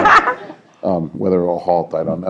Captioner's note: laughter